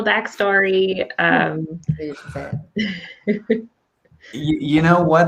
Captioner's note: speaking softly; laughing; laughs